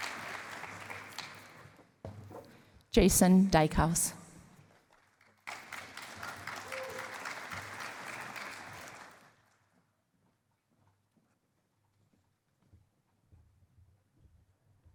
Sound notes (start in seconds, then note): 4.6 applause